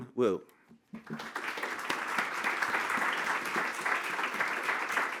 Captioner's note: applause